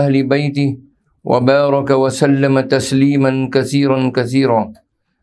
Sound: arabic

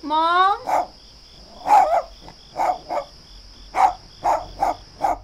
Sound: Snickers barks angrily

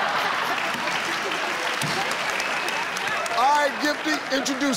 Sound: audience laughing; audience applauding

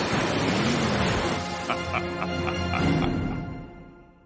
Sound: evil laughter

